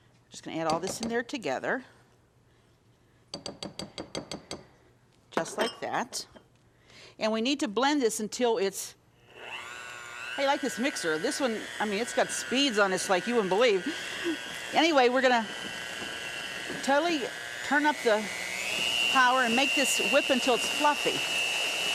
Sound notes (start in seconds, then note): 3.1 spatula banging; 8.9 mixer buzzing